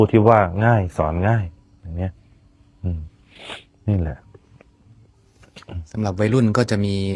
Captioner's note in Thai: เสียงสูดหายใจ